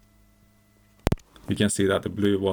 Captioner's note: distorted audio signal